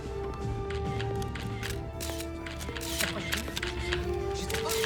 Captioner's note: cameras clicking